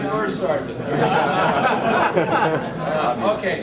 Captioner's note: men laughing